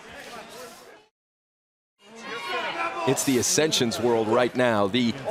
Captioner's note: crowd chatter